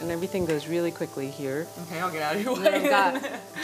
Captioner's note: laughs